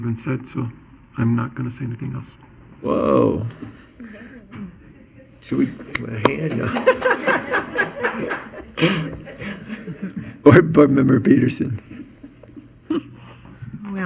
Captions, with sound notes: have been said so I'm not gonna say anything else. - Whoa. Should we give him a hand? (crowd clapping) (chuckling) Board Member Petersen.